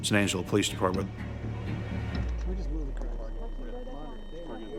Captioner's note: tense music; officers chattering